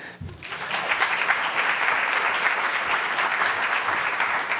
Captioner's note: audience applauding